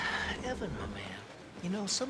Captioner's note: sighs